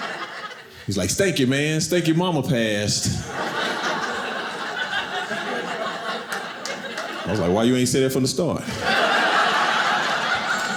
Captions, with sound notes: He's like, "Stanky, man. "Stanky momma passed." (audience laughing) I was like, Why you ain't say that from the start? (audience laughing)